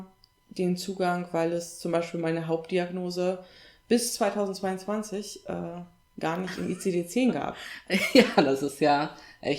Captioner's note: laughs